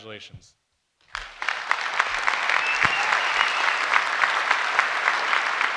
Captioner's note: crowd claps and whistles